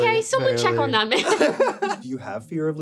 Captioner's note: laughter